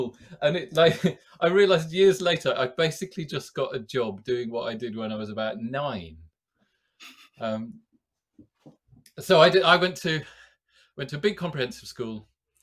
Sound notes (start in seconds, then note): 7.0 chuckles